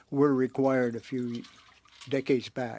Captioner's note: speaking French